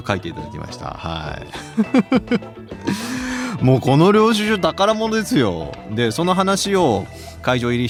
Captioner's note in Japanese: 笑い